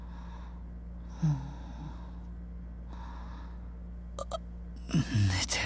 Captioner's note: eep